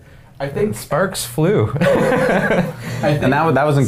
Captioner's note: men laughing